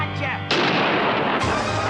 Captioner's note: gunshot